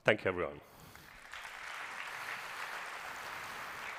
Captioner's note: applause